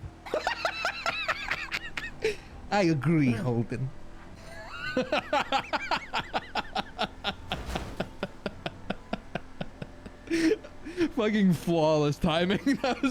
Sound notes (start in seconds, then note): 0.3 bursts out laughing; 4.1 continues laughing; 10.2 gasps; 12.3 laughing